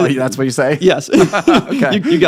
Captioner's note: laughing